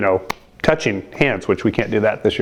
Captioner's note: clapping